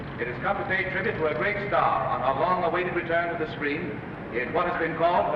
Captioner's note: none